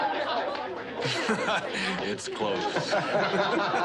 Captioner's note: chuckles